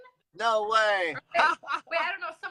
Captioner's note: laughs